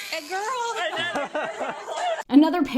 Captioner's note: people laughing